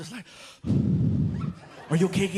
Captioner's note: exhaling